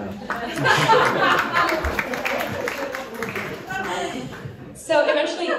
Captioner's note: applause, laughter